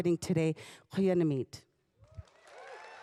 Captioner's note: speaking Indigenous language; applause